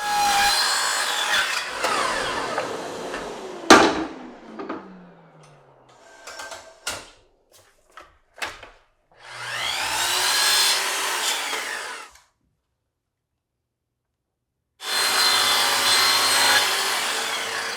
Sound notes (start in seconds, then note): 0.0 saw whirring; 3.6 wood thudding; 9.2 saw whirring; 14.8 saw whirring